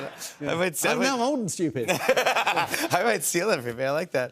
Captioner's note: laughs